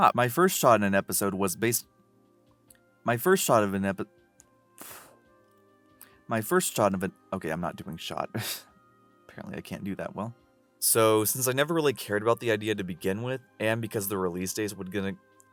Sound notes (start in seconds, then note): 4.8 blowing air; 8.5 chuckle